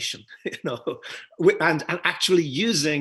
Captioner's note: laughs